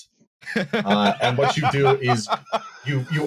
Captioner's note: laughs heartily